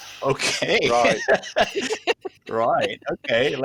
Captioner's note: laughter